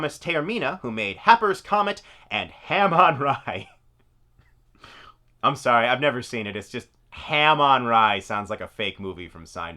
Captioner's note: laughs